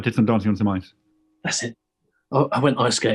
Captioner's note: whispers